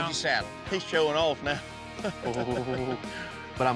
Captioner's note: chuckles